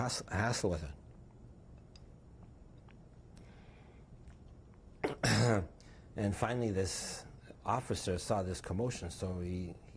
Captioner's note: drinks